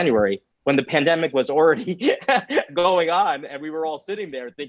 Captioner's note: chuckles